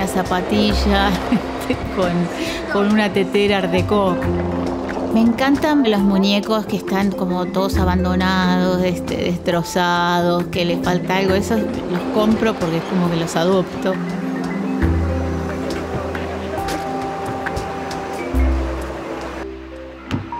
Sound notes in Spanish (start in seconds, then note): 14.8 murmullo gente